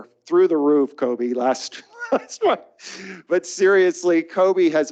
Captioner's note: chuckles